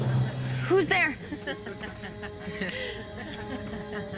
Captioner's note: chuckling